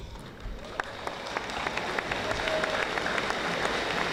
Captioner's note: audience applauding